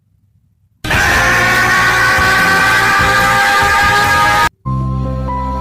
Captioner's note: Goku yelling sound efect